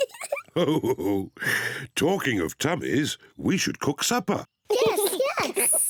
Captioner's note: laughs